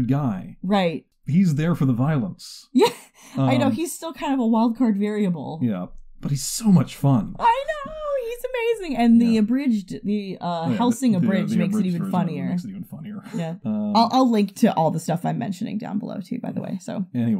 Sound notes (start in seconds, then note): 3.3 laughs; 13.6 chuckles